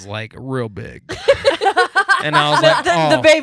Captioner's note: laughing